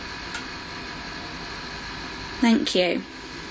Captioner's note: clank